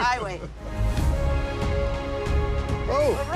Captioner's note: laughing